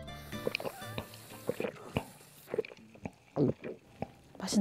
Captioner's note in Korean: 꿀떡꿀떡